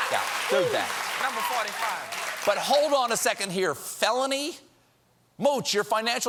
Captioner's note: cheering and applause